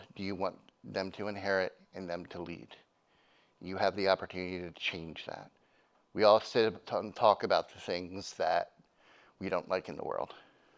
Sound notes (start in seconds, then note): none